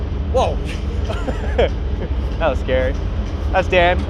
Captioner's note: chuckles